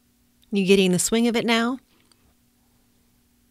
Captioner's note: silence